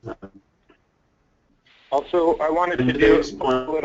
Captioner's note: voiceover